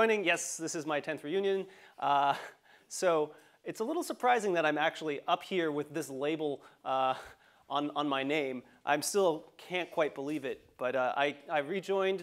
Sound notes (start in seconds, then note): 1.6 laugh